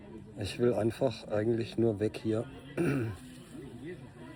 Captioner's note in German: räuspern